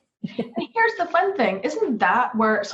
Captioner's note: chuckling